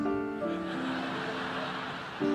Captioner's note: audience laughing; relaxing piano music continues